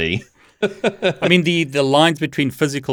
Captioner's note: laughs